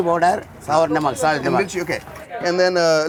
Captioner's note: both speaking in Hindi